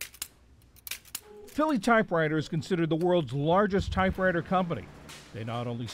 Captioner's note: voice-over